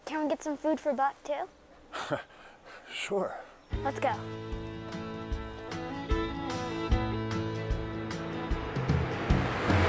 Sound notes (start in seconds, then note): 2.3 chuckles; 3.7 feel-good Americana music